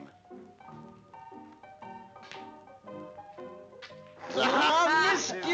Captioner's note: audience laughing